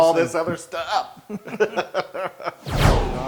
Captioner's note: laugh